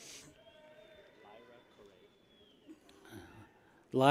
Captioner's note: people cheer